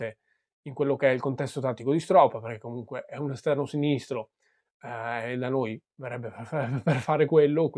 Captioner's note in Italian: risate